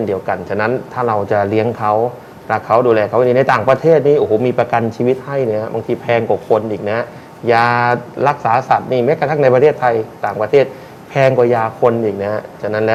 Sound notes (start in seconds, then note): none